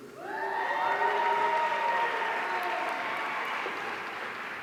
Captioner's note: audience cheering